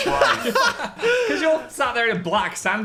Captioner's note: laugh